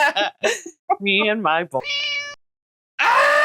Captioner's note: meow